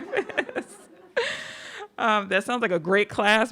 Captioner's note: audience laughing; laughs